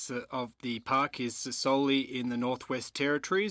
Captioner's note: speaking French